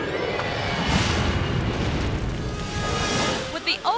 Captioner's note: piano whooshes; piano explodes